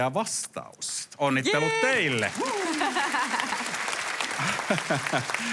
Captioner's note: applause